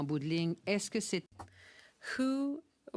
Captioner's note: speaking French